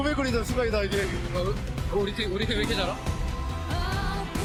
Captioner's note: Faker speaking Korean